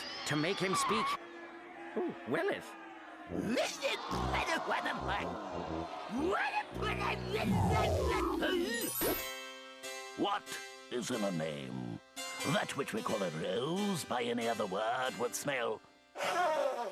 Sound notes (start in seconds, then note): 3.2 audience jeering